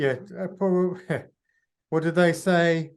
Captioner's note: chuckles